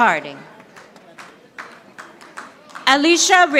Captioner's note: audience applauding